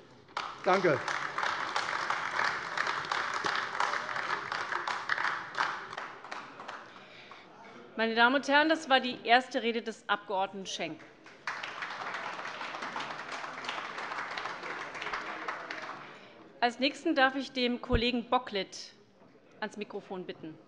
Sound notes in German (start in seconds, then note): 0.3 Beifall AfD; 11.0 Beifall AfD und vereinzelt SPD